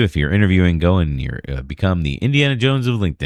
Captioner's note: uh